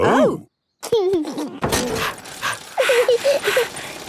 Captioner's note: chuckles; daddy pig panting; mummy pig panting; peppa chuckles